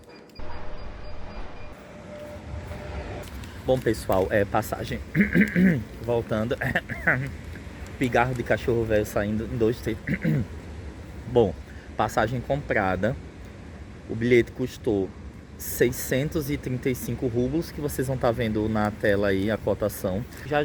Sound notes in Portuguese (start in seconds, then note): 5.0 tosse